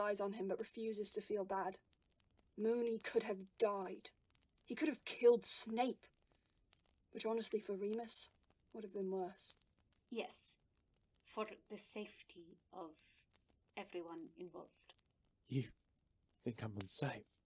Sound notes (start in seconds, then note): none